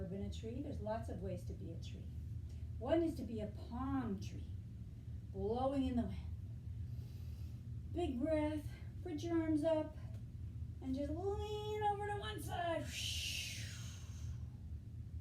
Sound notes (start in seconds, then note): 7.2 inhale; 13.9 exhale